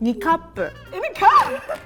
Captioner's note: speaking in Japanese